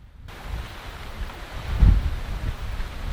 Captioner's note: wind howling